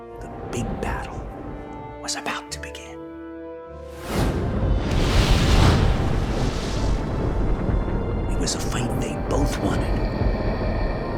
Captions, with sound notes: The big battle was about to begin. (flames blazing) It was a fight that they both wanted...